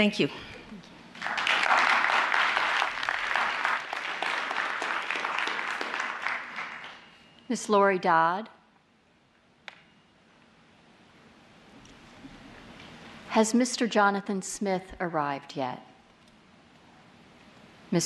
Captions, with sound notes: Thank you. [ APPLAUSE ] Miss Laurie Dodd. Has Mr. Jonathan Smith arrived yet?